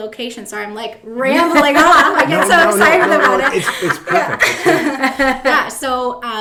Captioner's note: laughing